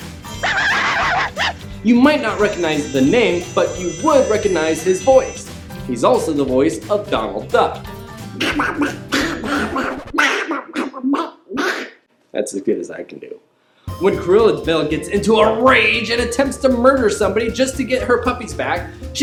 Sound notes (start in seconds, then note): 7.7 terrible Donald Duck impersonation